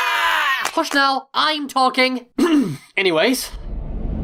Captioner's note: all scream; clears throat